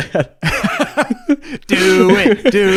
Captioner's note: both laugh